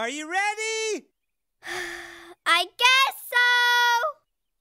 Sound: sigh

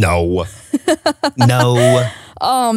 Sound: laughing

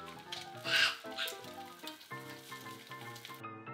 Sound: monster calling

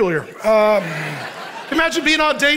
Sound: congregation laughing

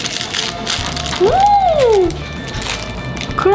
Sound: sound of satisfied reaction

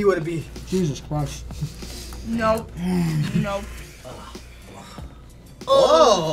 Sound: sighing

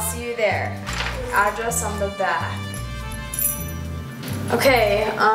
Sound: keys jingle

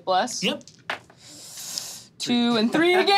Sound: dice clatters

